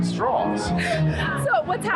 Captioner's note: chuckles